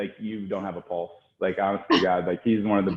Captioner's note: laughing